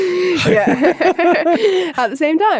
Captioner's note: both laughing